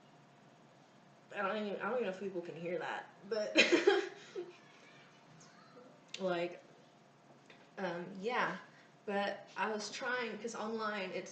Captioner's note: laughs